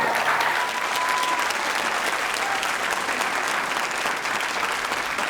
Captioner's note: audience applauding and cheering